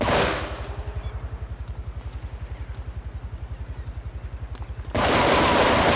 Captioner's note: gun firing